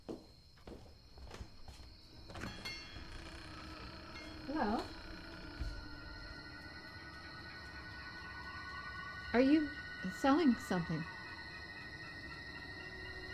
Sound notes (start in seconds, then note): 2.8 bell dinging; 7.3 suspenseful music